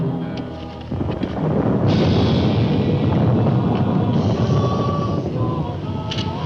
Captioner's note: thunder rumbles